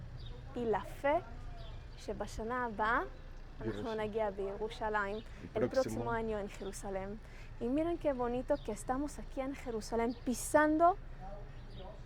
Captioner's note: Hebrew